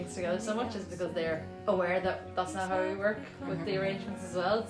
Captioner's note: none